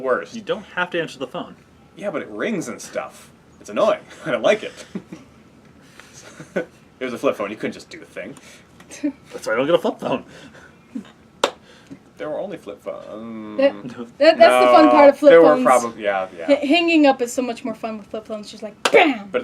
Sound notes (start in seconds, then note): 6.1 laugh; 11.4 clap; 13.5 trails off; 18.8 clap